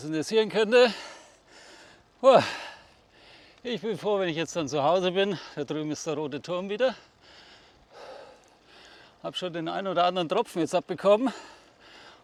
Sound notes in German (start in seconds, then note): 8.7 seufzt